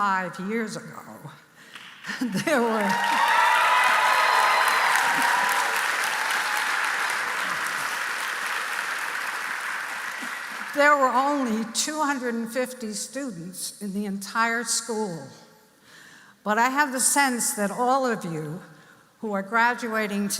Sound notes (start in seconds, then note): 4.0 applause